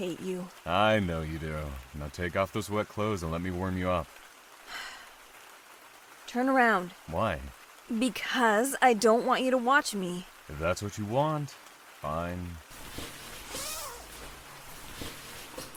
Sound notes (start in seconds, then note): 4.7 resigned sigh; 12.7 clothing rustles